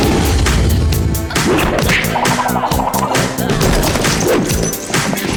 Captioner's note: fighting noises